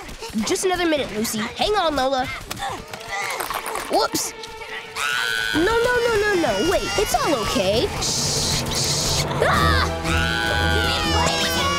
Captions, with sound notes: Just another minute, Lucy. Hang on, Lola. Whoops. - [crying] - No, no, no. Wait, it's all okay. Shh! Shh! [screams] [crying]